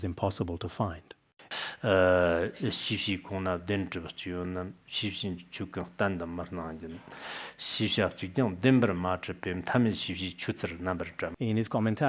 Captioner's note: citing scripture in Tibetan